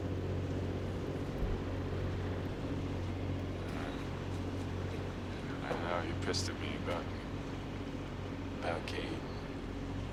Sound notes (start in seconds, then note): none